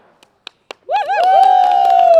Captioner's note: applause